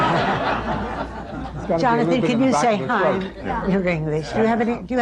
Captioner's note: laughter; laughter